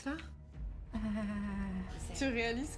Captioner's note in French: gémissement tremblotant